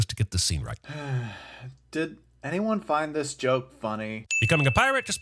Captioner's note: sigh